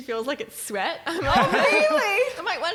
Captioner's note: laughing